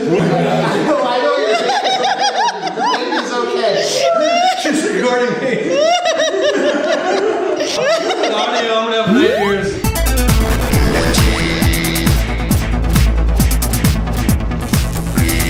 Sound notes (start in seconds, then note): 0.9 laughing; 9.0 laughing; 10.0 upbeat techno music